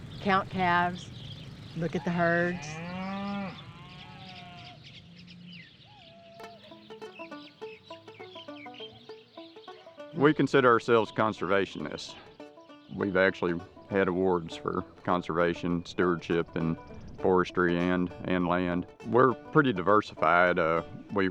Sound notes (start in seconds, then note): 2.0 cows mooing; 7.1 twangy banjo music